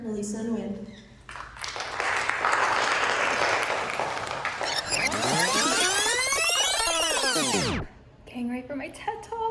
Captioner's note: rewind